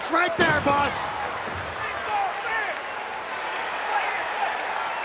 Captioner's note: crowd chattering